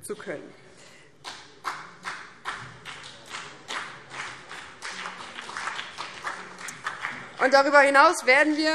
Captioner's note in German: Beifall BÜNDNIS 90/DIE GRÜNEN und CDU